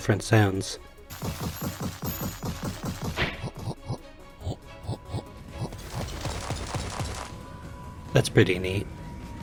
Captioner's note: various Walking Sounds